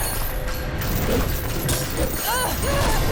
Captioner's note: grunting; screaming